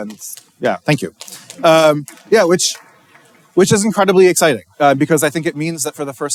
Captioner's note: applause